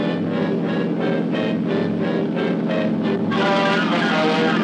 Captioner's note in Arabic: هدير المحرك